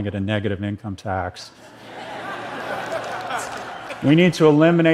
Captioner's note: تشویق